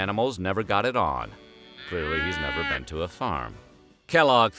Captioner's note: mooing